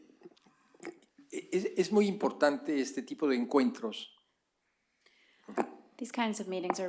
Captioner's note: speaking spanish